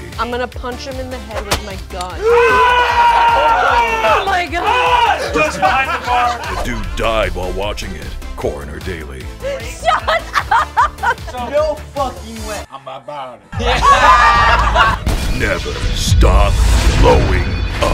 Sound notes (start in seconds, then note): 2.2 shouts; 13.5 group laughing